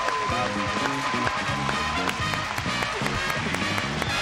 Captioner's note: audience cheering